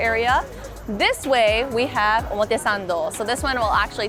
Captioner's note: speaking foreign language